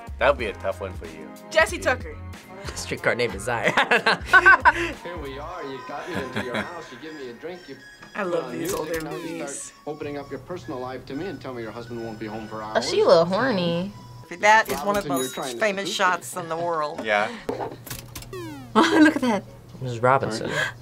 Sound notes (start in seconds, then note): 3.6 both laugh; 5.8 laughs